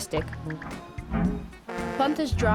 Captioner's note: horn blaring